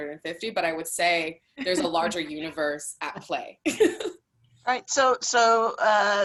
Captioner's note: laughs